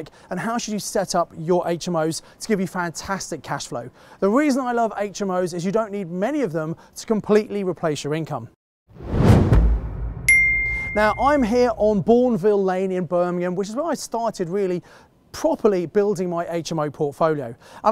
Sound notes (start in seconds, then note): 8.9 air whooshing; 10.2 bell dings